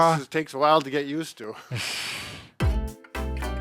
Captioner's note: chuckles; upbeat music